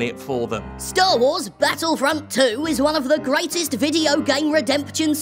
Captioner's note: digitized reading voice